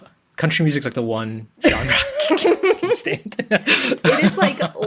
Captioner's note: laughs